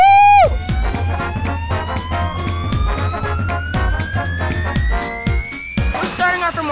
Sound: whooping; siren

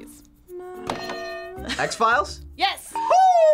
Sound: bell rings

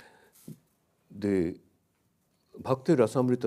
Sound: speaks in a foreign language

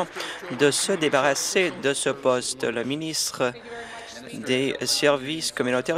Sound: applause

